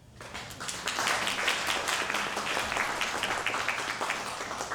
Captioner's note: audience applause